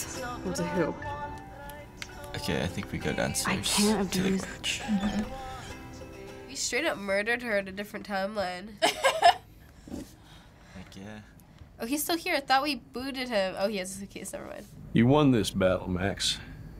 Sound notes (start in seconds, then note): 9.0 laughs